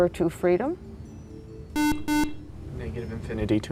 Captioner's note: buzzer